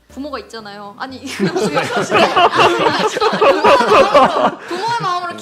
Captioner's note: laughter